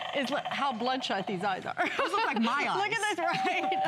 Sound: laughter

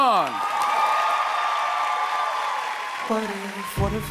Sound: applause

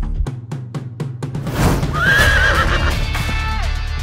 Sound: horse neighing

